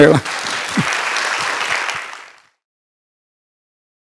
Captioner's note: sound of applause